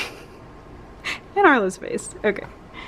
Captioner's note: laugh